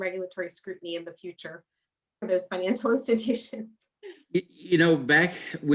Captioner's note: chuckles